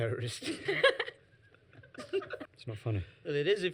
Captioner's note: laughs